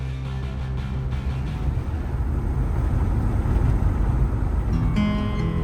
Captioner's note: engine whirring